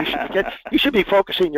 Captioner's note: laugh